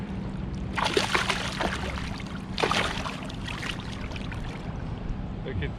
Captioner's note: fish splashing